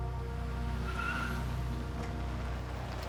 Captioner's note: tires screech